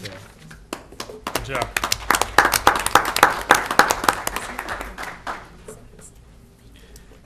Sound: applause

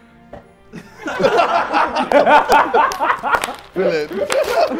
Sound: Sidemen laughing

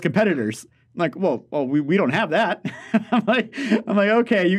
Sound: laughs

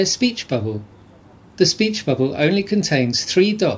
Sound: the sounds of voices talking in the distance

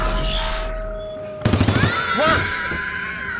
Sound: gunfire; Price yelling

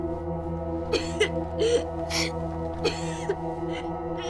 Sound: sobbing

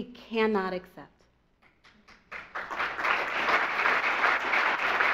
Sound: audience applauds

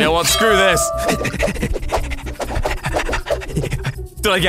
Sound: panting

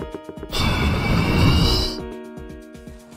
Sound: door opens

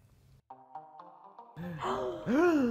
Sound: gasping

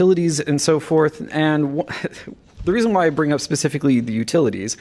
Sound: laughter

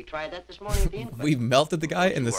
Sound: chuckle

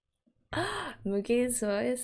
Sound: delighted gasp

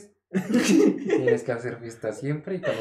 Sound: laughter

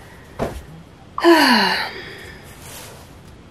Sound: sigh

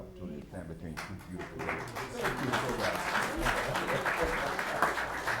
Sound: attendees clapping

